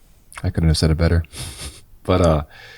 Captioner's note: chuckles